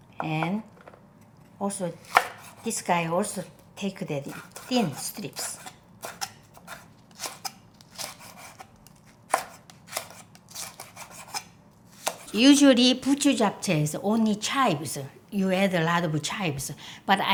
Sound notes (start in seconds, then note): 5.7 knife slicing